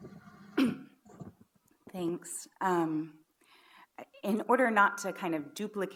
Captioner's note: clears throat